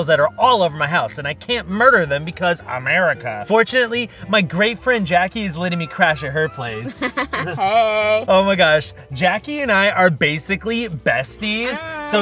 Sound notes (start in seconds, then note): 6.8 Jackie laughs